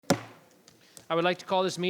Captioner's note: gavel banging